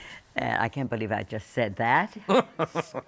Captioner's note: laughter